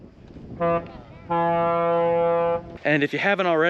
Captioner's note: horn honking